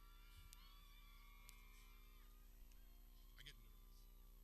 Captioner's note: people cheering